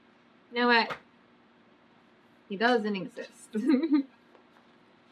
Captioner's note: laughs